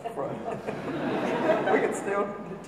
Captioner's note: audience laughing